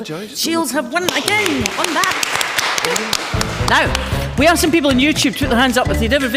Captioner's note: applause